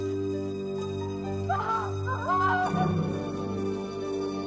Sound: screaming

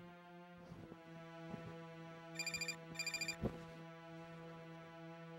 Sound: phone rings

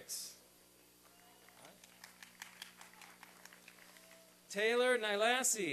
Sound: applause and cheering

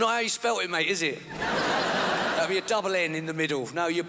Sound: crowd laughs

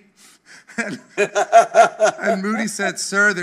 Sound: chuckling

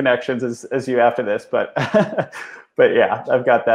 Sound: laughs

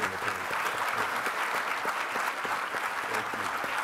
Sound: applauding

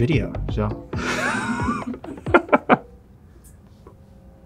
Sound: laughing

